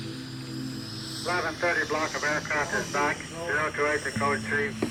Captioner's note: radio chatter